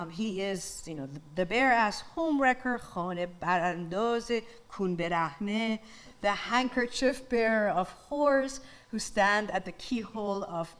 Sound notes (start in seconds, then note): 2.8 speaks in foreign language